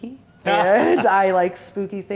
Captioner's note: laughs